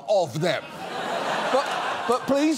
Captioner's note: audience laughs